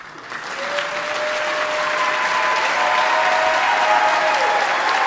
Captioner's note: audience applauding; audience cheering